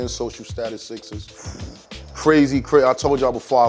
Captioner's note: exhales